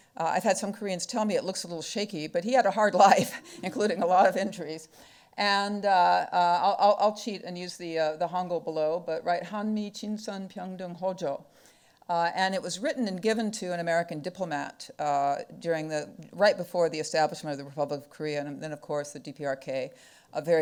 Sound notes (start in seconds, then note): 9.4 speaking foreign language